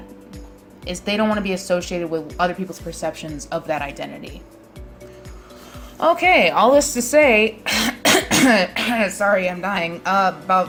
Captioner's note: coughs